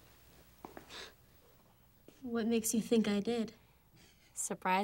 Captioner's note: scoffs